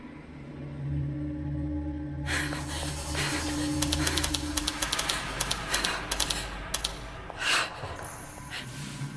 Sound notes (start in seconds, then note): 2.3 Julie panting; 3.9 button clicking